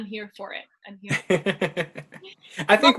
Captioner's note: laughter